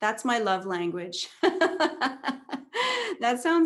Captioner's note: laughs